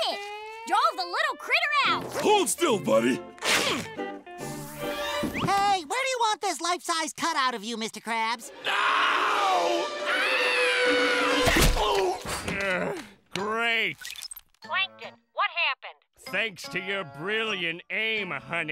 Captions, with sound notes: Drawed the little critter out! Hold still, buddy! Hey, where do you want this life size cutout of you, Mr. Krabs? No! [screaming] Ooh! Great! Plankton, what happened? Thanks to your brilliant aim, honey,